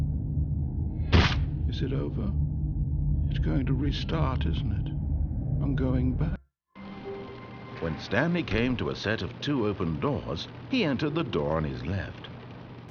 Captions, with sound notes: (splat) Is it over? It's going to restart, isn't it? I'm going ba- When Stanley came to a set of two open doors, he entered the door on his left.